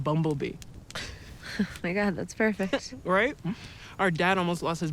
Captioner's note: chuckles